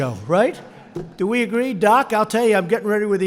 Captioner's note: laughter